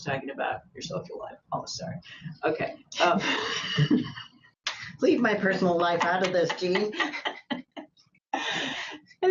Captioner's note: laughter